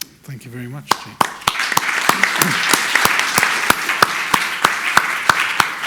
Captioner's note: audience applauding